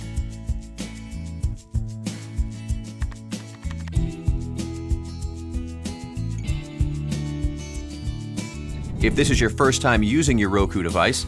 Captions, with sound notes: (keyboard clicking) If this is your first time using your Roku device,